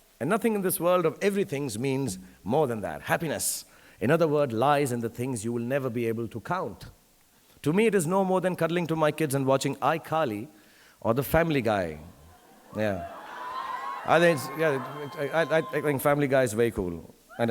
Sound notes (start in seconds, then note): 12.2 audience cheering